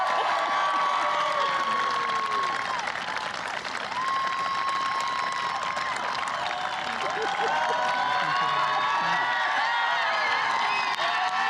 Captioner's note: applause